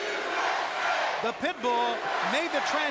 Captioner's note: crowd cheering